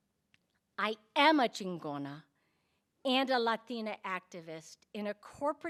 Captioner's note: speaking in Spanish